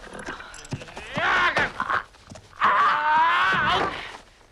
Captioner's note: cavalier shouts